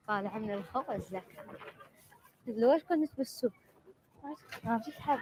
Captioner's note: speaking foreign language